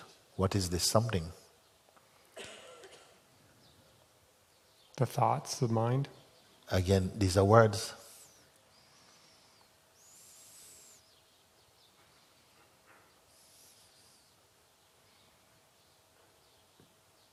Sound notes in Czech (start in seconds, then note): 9.5 ticho